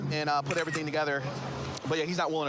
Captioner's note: camera app clicks